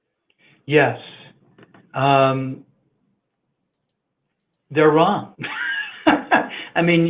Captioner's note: laughs